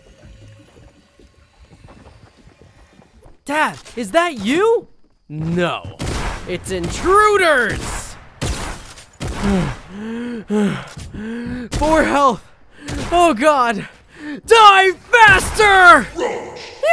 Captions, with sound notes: (gurgling) - Dad is that you? No, its intruders! (gun bangs) Four health, oh god, die faster!